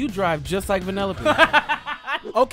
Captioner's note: laughs